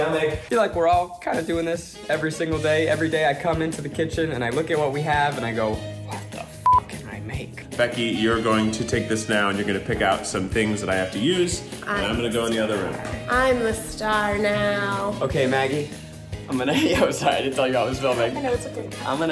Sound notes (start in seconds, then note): 6.6 beep